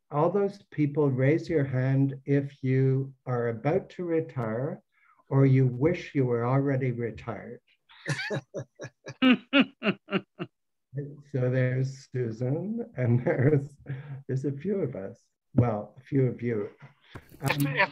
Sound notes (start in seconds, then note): 7.9 laughs; 8.0 woman laughs